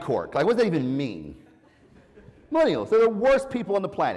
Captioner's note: laugh